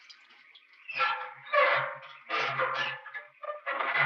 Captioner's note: wheel squeaking